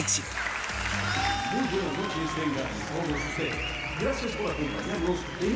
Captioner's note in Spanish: Aplausos; Aclamaciones